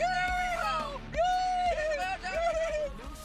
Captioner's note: yells